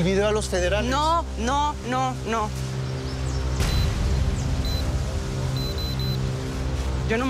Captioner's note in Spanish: Pitido